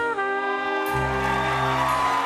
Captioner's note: cheers and applause